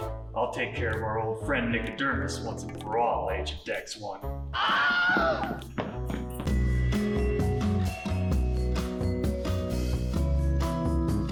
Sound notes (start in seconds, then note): 4.5 man screams